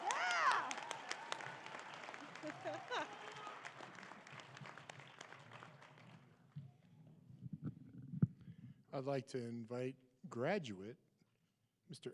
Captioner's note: applause